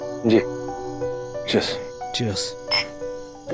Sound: toasting

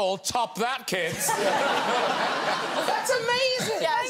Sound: guests and audience laugh

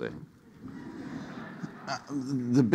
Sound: audience laughing

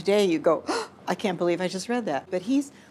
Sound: gasps

